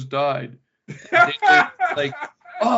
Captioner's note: laughing